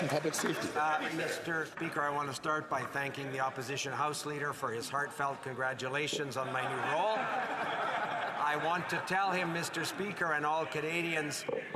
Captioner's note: some Applause